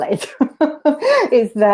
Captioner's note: laughs